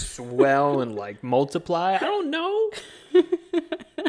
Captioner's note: chuckles